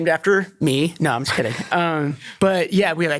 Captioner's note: laughs